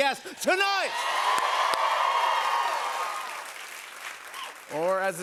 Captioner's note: cheers and applause